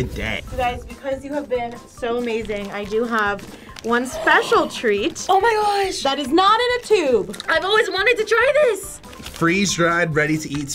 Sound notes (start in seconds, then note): 3.4 gasping